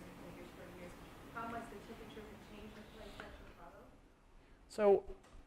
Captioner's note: voiceover